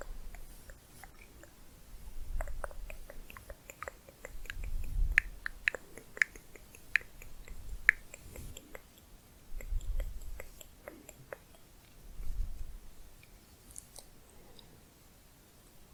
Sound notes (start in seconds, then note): 0.2 tongue clicking; 1.9 layered tongue clicking